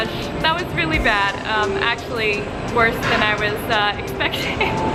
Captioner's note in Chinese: 笑声